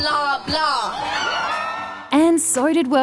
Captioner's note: cheering